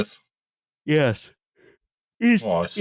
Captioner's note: yawns